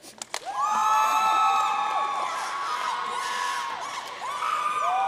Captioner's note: audience cheering and applauding